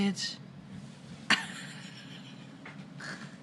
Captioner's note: shocked laughter